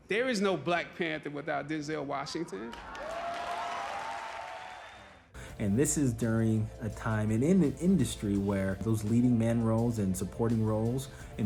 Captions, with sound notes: There is no Black Panther without Denzel Washington. (audience clapping) - And this is during a time and in an industry where those leading men roles and supporting roles